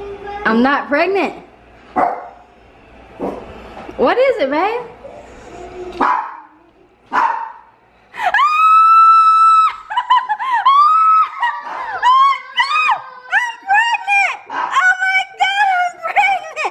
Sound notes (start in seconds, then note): 7.1 dog barks; 8.2 screams